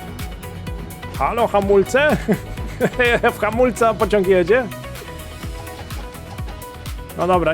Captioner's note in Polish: śmiech